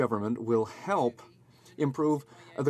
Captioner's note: speaking French